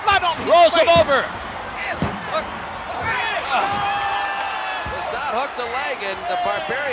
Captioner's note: applause